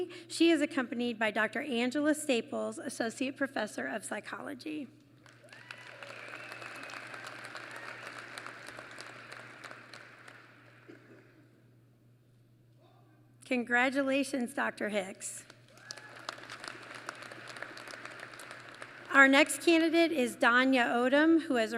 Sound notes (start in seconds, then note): 5.2 applause; 15.4 applause